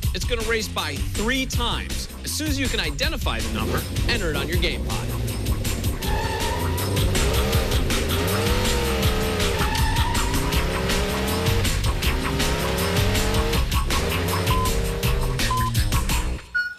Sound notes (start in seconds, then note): 6.2 tires squealing and engine revving; 15.4 electronic beeping